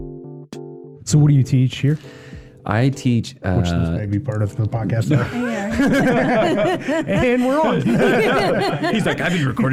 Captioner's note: people talking over each other and laughing